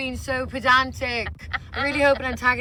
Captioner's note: laughs